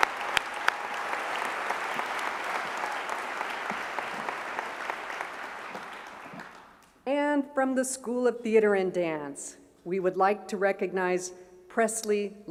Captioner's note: applause